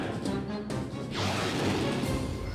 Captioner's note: jets rumble off